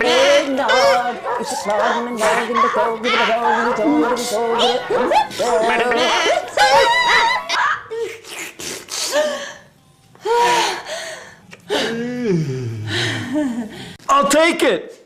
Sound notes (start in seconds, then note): 7.7 more Final Crazy Sounds